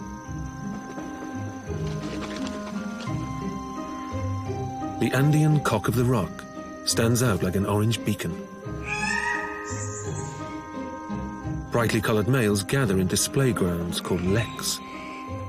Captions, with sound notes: (wings flapping) The Andean cock-of-the-rock stands out like an orange beacon. (squawks) Brightly-colored males gather in display grounds called leks.